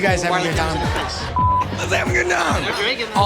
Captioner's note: beep